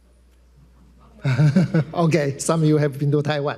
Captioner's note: everyone laughing